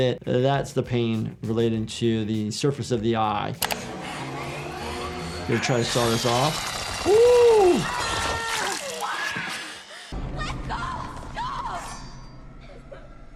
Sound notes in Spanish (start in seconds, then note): 3.6 máquina zumbando; 7.0 Marge grita